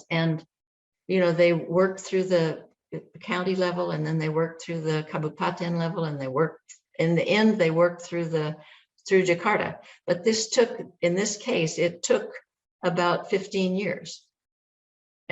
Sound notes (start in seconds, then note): 5.0 non-english speech